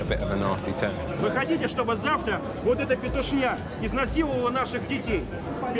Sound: speaking in foreign language

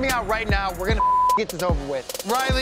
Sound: beep

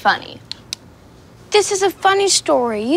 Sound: switch clicks

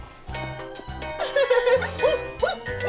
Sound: giggles

